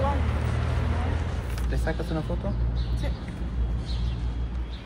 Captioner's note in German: auf Spanisch